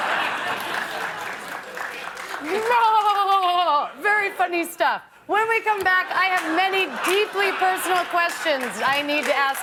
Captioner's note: laughter